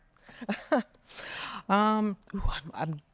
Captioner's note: chuckling